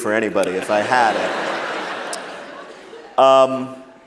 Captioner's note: laughter